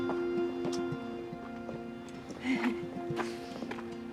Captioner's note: chuckling